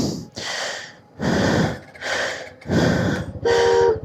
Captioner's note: gasp; sigh